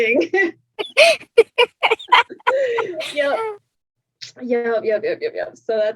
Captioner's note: laughs